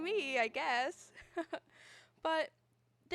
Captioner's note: giggles